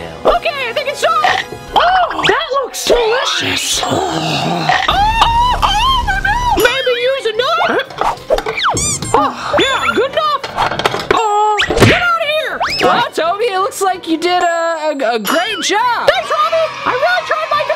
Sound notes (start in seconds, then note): 0.0 recorded Voice; 4.8 screams